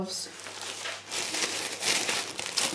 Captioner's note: gloves rustle